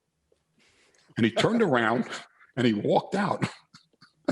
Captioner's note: laughs